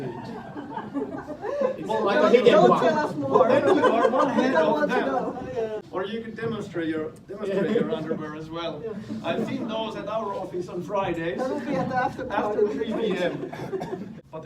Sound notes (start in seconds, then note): 0.0 laughter; 1.9 everyone clamoring; 8.7 students laughing